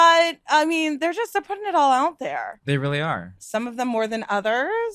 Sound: laughs

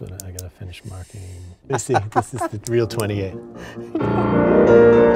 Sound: laughs

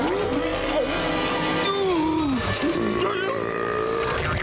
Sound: groaning

